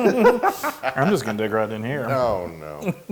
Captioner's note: laugh